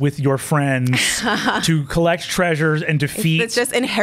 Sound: laughs

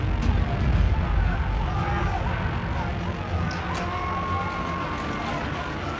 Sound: intense buzzing; crowd screams in panic

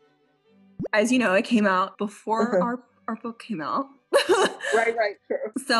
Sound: laughs

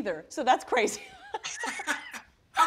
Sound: laughter

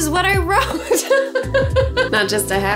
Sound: laughing

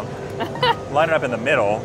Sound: laughs

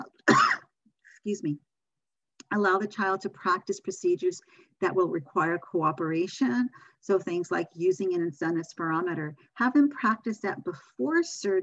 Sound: cough

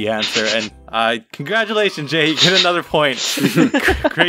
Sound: laugh

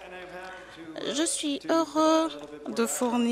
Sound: applause

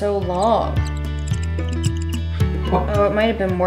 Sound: marker squeaking; laughing

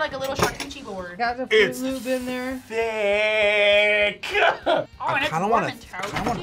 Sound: laughs

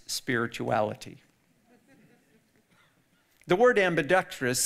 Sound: audience laughing

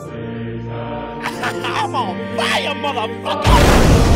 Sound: laughing

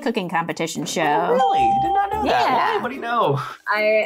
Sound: bell rings

